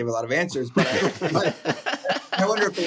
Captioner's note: laughter